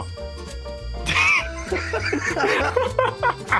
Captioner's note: laughing